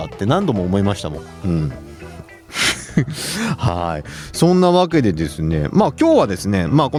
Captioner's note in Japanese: 笑い